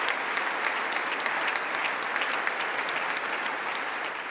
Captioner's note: congress applauding